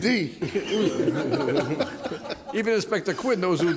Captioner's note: laughter